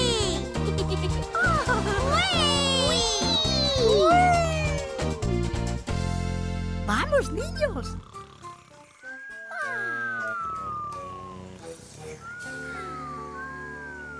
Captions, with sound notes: [giggling] -Whee! -Whee! Whee! Vamos, niños! [snoring]